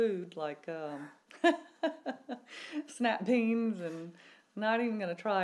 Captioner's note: laughs